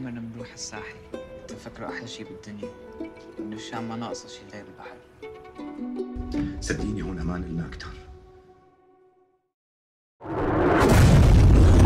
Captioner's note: sudden shattering noise